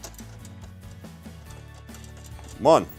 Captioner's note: metal clanking